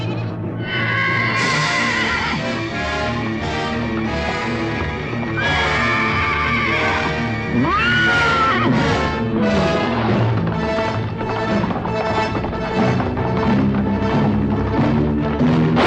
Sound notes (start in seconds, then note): 0.5 horse neighing; 2.6 suspenseful music; 10.3 dramatic music; 10.3 hooves clattering